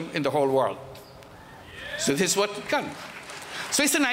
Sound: applause

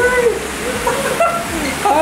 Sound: laughing

